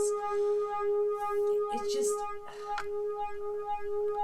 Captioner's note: sighs